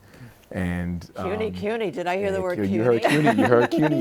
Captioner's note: laughs